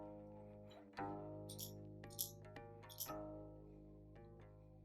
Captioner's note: tea pot shaking